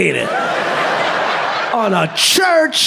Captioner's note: audience laughs